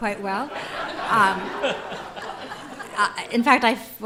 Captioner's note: audience laughing